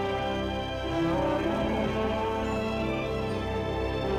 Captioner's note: cows mooing